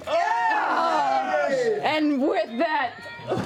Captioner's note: cheering